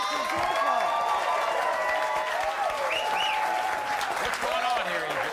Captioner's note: audience cheering and applauding